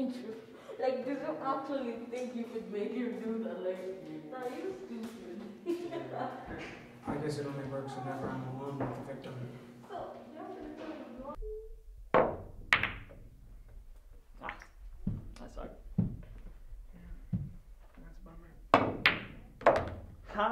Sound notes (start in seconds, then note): 5.6 laughing; 12.1 pool ball strikes; 18.7 pool ball thuds